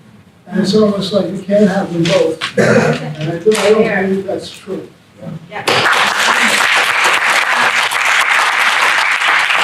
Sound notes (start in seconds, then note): 5.7 audience applause